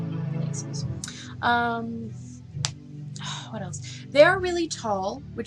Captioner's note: cracks knuckles